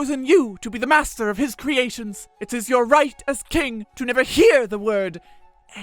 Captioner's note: whispered